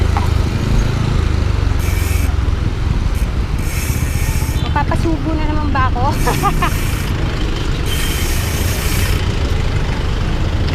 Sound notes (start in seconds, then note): 6.1 laughs